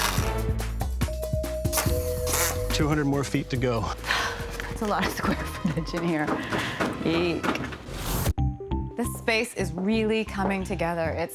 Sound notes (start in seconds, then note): 2.3 sighs